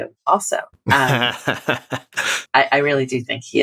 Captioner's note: laughter